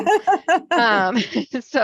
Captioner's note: laughs